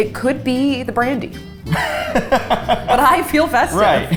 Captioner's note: laughs